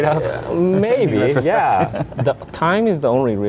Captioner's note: laughs